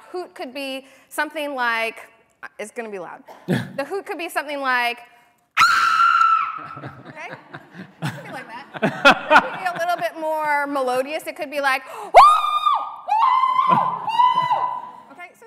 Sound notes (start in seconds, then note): 5.5 screaming; 13.2 chimp noises